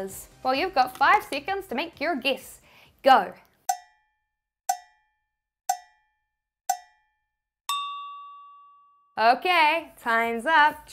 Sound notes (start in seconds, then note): 4.0 cowbell clanging